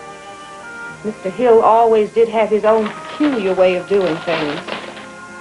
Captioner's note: paper rustling